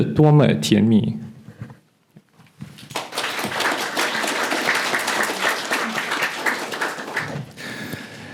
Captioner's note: applause